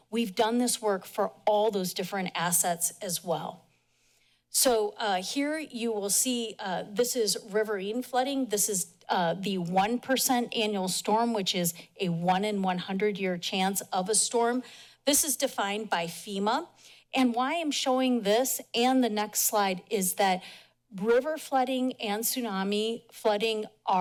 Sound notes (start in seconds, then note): none